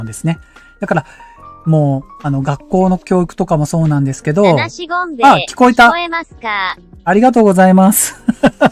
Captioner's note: laughter